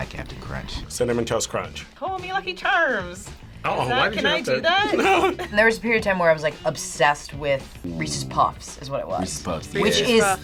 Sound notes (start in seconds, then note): 4.8 laughs